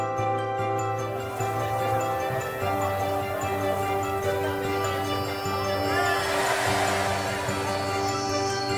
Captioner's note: crowd cheers